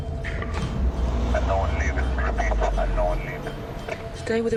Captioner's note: man over radio